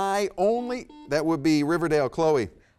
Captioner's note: buzzer beeps